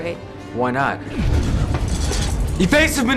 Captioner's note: explosion